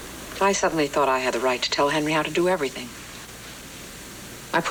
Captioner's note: none